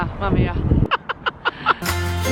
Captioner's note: laughter; main theme playing